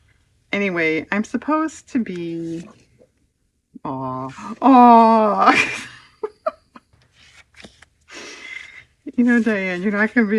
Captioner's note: laughs